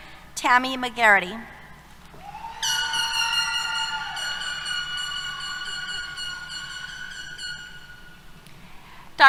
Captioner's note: applause, Cheers